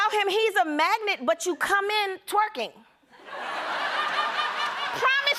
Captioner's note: laughter